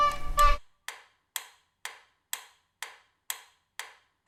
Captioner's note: ticking sounds